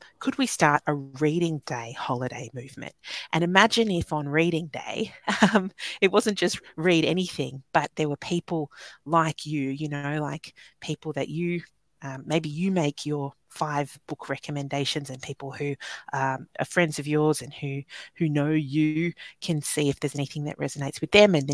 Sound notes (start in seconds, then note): 5.3 laughing